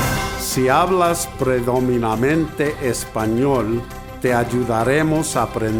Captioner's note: announcer speaks in Spanish